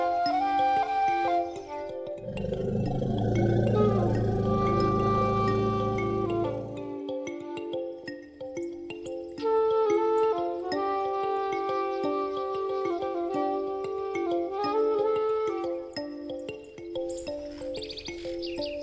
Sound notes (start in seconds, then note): 2.2 elephant rumbling; 7.6 birds chirping; 10.2 soft music; 14.2 birds chirping